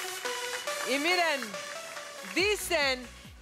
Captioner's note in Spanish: Aplausos